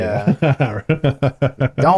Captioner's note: laughing